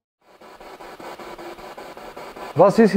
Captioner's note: noise of the spiritbox in the background